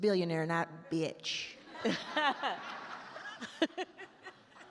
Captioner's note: all laugh